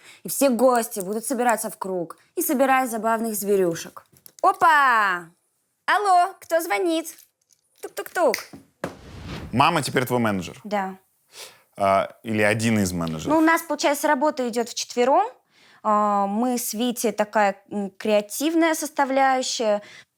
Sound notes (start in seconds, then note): none